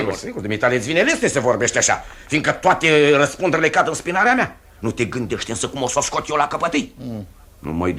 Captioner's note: none